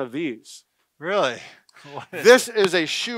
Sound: laughs

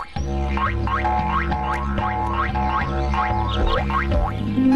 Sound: kangaroos bouncing

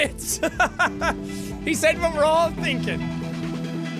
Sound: laughing

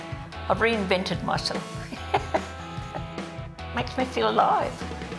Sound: laughs

